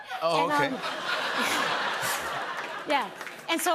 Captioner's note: laughter